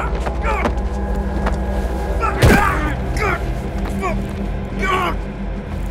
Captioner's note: tense music; man grunting